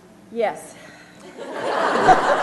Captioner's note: laughter